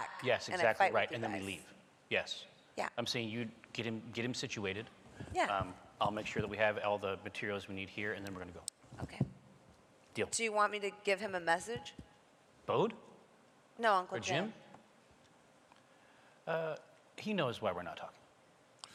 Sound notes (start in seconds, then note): none